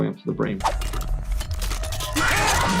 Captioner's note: metal clinking; Foxy yells; security guard screams